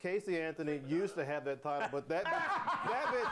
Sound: laughter

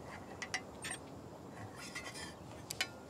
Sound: metal creaking

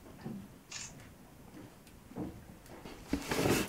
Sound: camera shutter

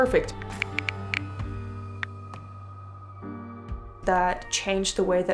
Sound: keyboard clicking

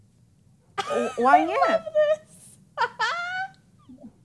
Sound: laughing

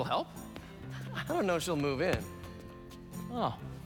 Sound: laughing

